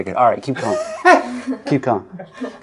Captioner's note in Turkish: Kameraman ve röportajcı gülmek